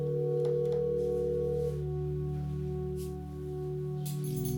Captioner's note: phone rings